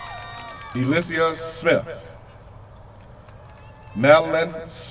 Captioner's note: cheers from crowd